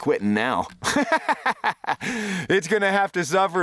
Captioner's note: laughing